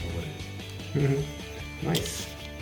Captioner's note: giggles